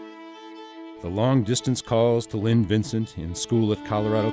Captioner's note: voiceover